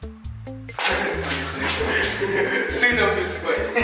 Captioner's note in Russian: смех